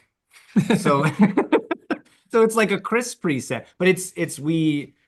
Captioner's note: laughing